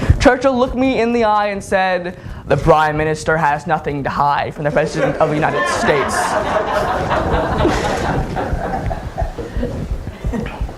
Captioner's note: laughter